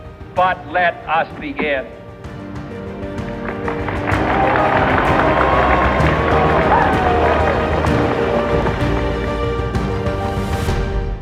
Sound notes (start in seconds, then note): 3.3 applause